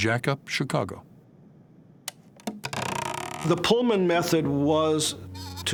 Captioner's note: machinery creaking